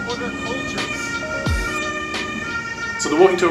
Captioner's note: siren rings